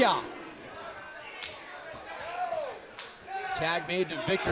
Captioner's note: crowd chatter